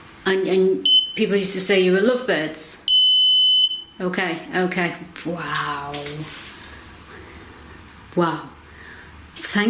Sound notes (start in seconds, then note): 0.0 beep; 2.8 continuous beep